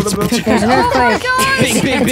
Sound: imitates drum roll

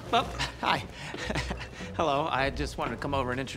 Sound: laughs

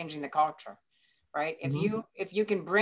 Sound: sound of agreement

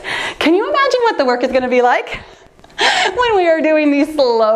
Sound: laughs

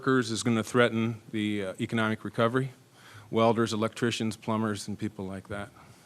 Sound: none

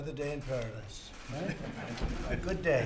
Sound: laughter

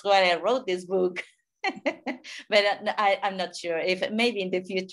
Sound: laughing

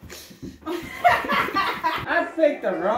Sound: immense drunken laughter

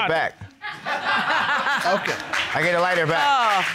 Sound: all laugh

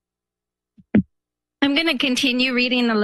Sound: microphone sound

